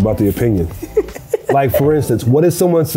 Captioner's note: laughs